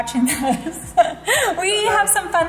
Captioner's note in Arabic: ضحكات خافتة من الكريستال